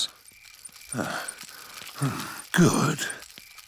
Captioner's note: panting